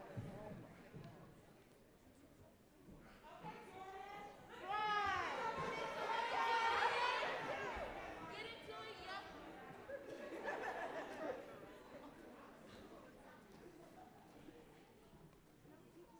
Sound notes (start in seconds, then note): 6.7 crowd talking; 10.2 laughing; 13.4 crowd talking